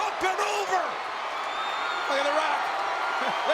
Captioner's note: spectators cheering